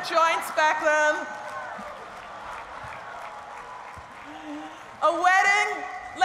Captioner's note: laughter and applause